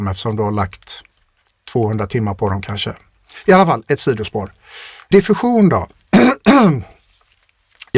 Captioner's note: clears throat